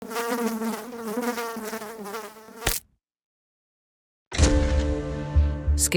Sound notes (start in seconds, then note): 0.0 fly buzzing; 2.6 fly splatting; 4.4 mysterious music